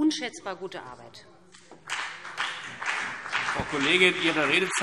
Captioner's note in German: Beifall BÜNDNIS 90/DIE GRÜNEN und vereinzelt CDU´